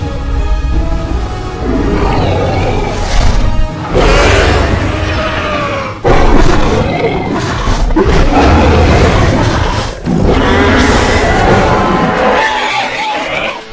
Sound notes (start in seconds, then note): 1.8 Indominus roars loudly